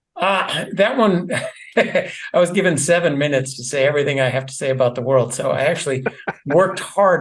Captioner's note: laugh